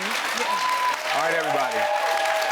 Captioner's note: audience applauds